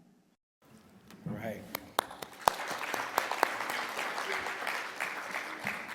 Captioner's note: audience applauding